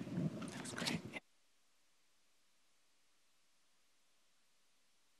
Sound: applause

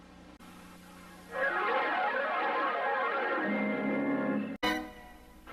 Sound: swirling sounds continuing

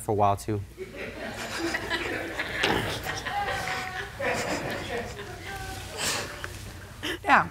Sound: laughter

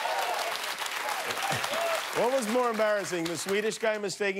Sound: cheers and applause

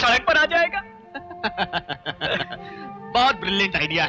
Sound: laughing

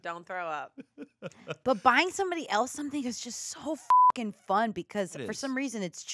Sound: beep

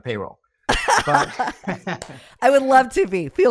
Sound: chuckles; laughs

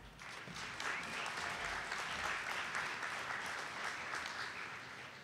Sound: audience applauding

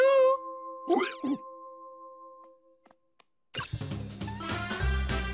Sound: hiccups

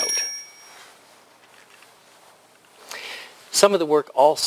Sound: pause

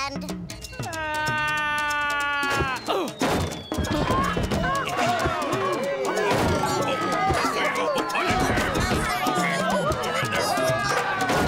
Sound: whooshing, thudding and squealing

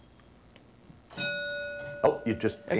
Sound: ding

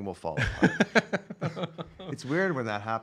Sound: laughing

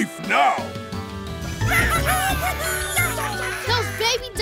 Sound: squeaking

